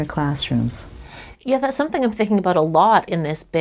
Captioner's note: voiceover